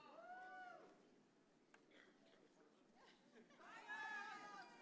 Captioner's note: audience cheers and shouts